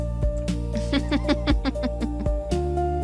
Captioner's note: laughs